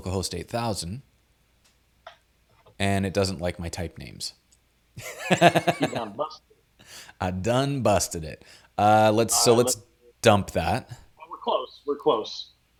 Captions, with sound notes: and it doesn't like my type names. (laughs) - You done busted it. - I done busted it. So let's dump that. - Well, we're close, we're close.